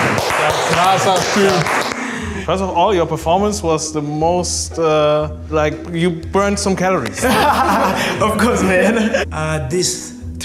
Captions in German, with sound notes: Krasser Typ. (Sie sprechen englisch.)